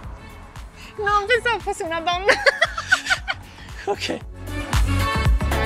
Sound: laughing

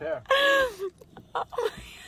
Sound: laughing

